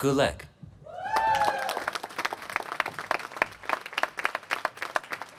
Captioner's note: applause